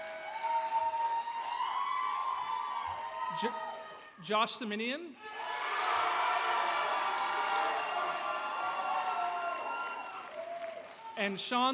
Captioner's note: applause